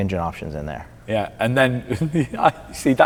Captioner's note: laughs